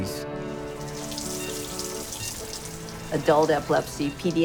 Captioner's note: water drips